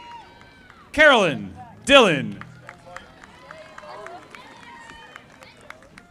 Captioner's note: audience applauding